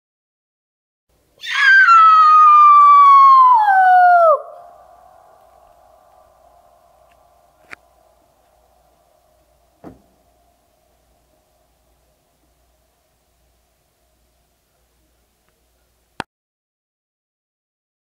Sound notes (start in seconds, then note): 1.4 scream